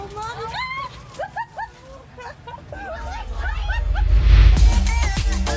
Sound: laughs

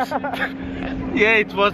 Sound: chuckles; laughing

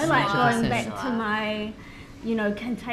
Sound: none

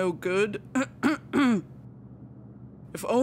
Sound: clears throat

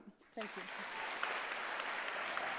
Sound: applauds

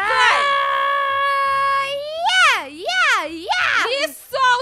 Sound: scream

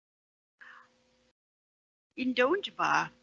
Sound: foreign language

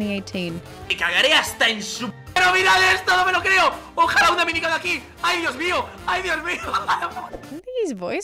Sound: Grefg commentates enthusiastically in Spanish

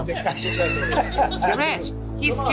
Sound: patrons laughing

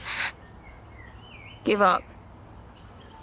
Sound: sharply inhales

